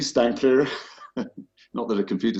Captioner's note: laughter